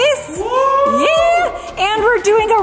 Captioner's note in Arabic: أطفال يهتفون